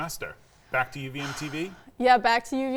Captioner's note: sighing